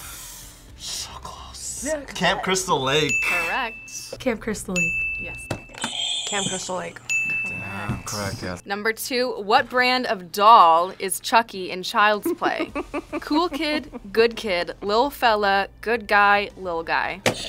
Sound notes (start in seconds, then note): 0.8 whispers; 1.7 mockingly; 7.0 bell rings; 7.1 buzzer rings